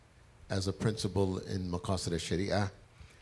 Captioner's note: speaks foreign language